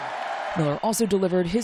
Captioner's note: cheering